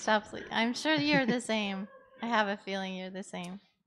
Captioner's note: laughter